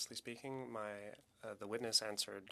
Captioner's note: speaking French